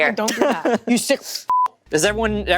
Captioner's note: beep